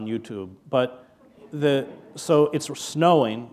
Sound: chuckle

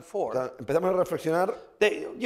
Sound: speaking spanish

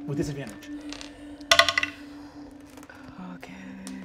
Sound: dice rolling

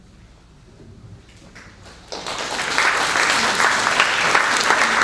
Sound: applause

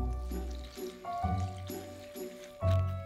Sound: liquid pouring

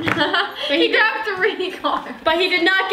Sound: laughs

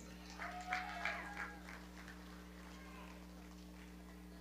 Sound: audience clapping

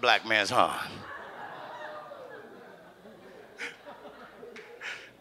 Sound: audience laughs

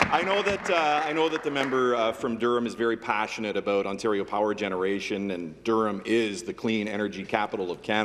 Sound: applause

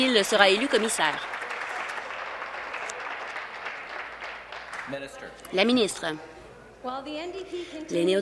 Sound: applause

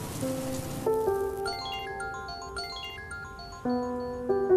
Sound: mobile ringing

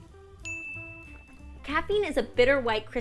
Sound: bell rings

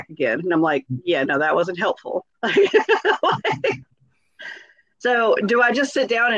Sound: laughs

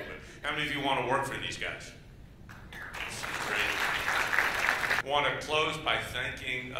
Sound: applause

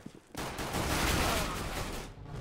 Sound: firing; in game: death groan

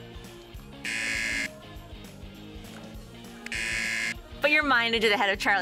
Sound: buzzer

